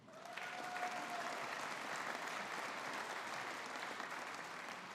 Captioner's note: audience applauding